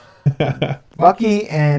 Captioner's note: laughing